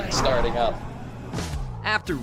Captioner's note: jet engine fires